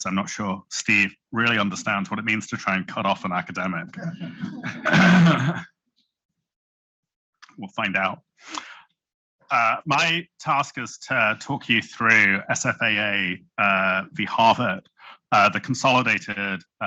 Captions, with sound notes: I'm not sure Steve understands what it means to cut off an academic. (Chuckling) we will find out. My task is to talk you through the half of the consolidated